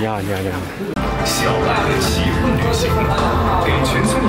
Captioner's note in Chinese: 来自音响的声音